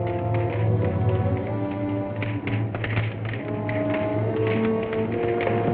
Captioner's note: dramatic music; flames crackling